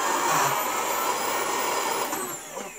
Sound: torn of vacuum

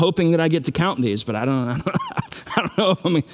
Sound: laughs

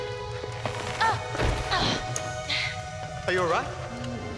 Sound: Aruna gasping and grunting

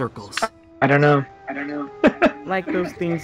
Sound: laughs

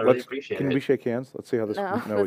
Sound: laughter

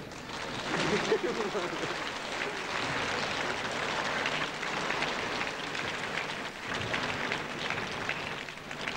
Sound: applause

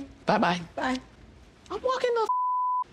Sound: beep

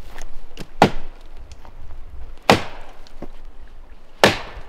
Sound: wood smacking

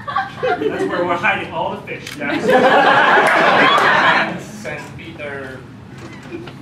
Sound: laughter

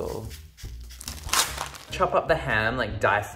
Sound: sizzling

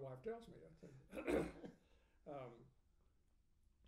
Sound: laughing

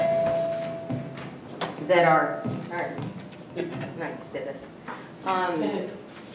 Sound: mic screeches

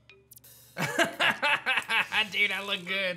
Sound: laughs

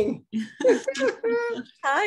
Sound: both giggles

